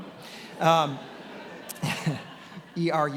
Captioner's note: attendees laughing